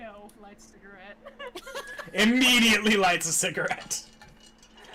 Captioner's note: laughing